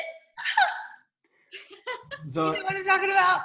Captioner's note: laughs